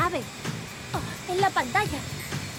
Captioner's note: gasps